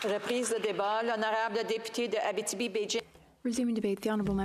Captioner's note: applause